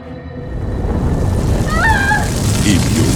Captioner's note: flames roar and crackle; Mila screams